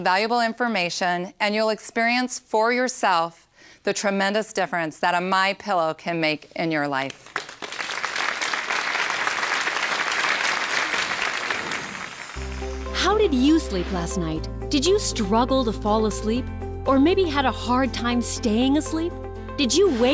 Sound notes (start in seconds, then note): 7.0 applause